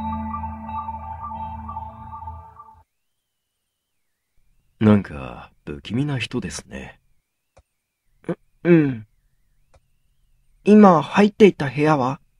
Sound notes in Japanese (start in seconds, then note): none